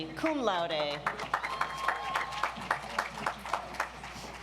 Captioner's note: audience applauds